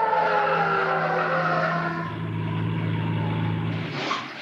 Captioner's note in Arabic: صافرة الإنذار تدوي; اصوات صرير الاطارات